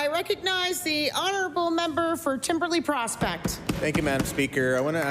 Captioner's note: applause